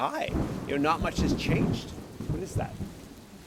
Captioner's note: thunder rumbles